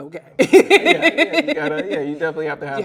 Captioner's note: laughs loudly